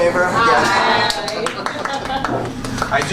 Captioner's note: chorus of ayes; applause